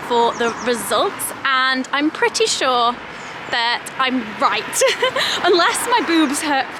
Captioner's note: chuckles